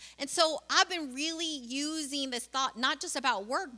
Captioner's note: none